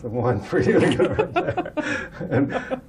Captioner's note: laughter